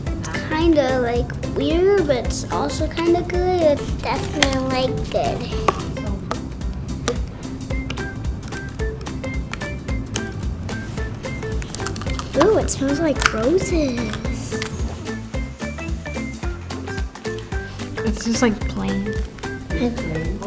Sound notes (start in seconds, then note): 6.4 child fidgeting; 15.6 child fidgeting